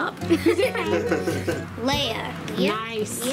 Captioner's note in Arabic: يضحك